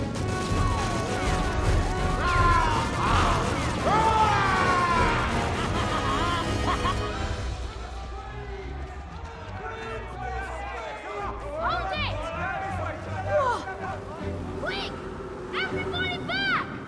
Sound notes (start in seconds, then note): 2.5 roaring; 9.3 shouting